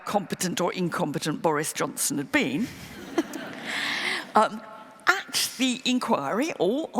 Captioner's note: laughter